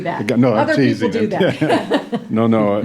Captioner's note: laughs